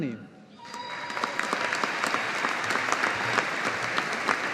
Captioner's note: audience applauding